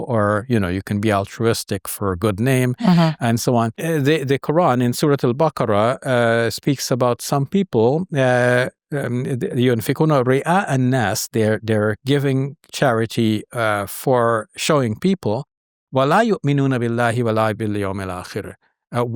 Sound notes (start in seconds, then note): 7.8 speaks Arabic; 16.4 speaking Arabic